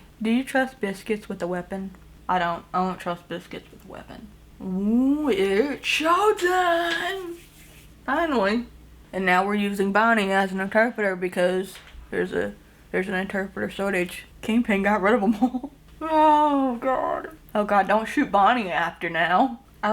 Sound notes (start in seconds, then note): 7.2 rubbing hands; 15.2 chuckles